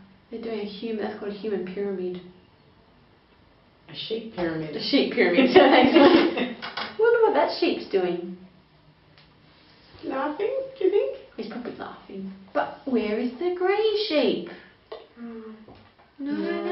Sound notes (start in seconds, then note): 5.4 laughs